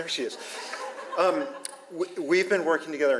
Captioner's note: audience laughs